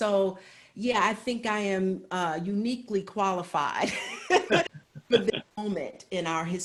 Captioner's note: laughs